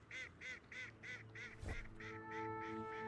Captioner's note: ducks quacking